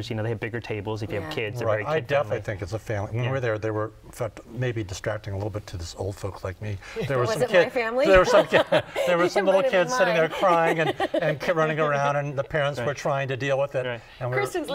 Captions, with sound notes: TABLES IF YOU HAVE KIDS. >> I DEFINITELY THINK IT'S A FAMILY -- WHEN WE WERE THERE, THEY WERE MAYBE DISTRACTING A LITTLE BIT TO THE OLD FOLKS LIKE ME. >> WAS IT MY FAMILY? [ LAUGHS ] >> THERE WERE SOME LITTLE KIDS SITTING THERE CRYING AND RUNNING AROUND, AND THE PARENTS WERE TRYING TO DEAL WITH IT. >> KRISTEN -- NO, BECAUSE WHEN